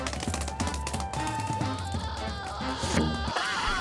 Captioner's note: screaming